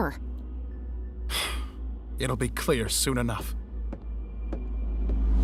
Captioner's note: sighs